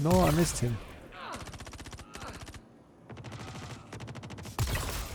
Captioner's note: gun firing